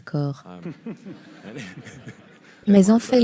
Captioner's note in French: en riant